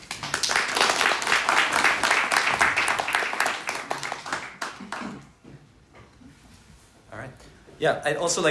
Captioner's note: applause